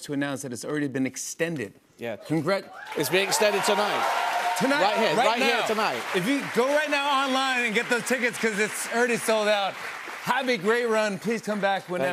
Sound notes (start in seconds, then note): 3.8 cheers and applause